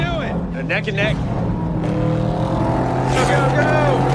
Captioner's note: engines rumbling